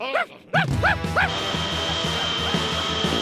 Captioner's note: barking